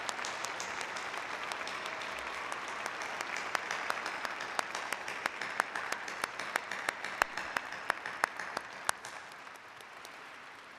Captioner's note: applause